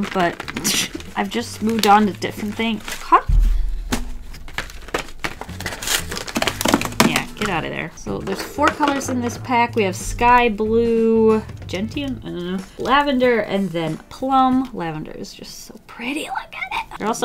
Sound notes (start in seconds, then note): 3.9 packaging crinkles